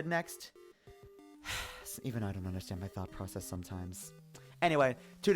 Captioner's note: sigh